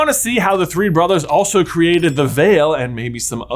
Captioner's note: bell dinging